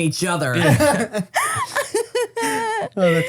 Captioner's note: laugh